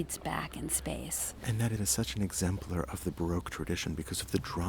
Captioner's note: voiceover